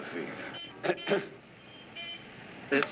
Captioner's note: clears throat